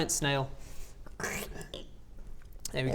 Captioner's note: slurp